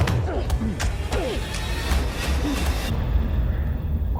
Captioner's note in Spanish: Golpes